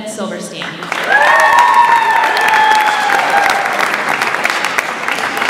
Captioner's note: audience applauds and cheers